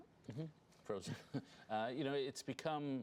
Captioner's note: laughter